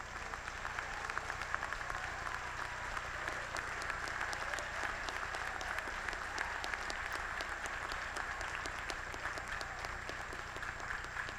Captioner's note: applause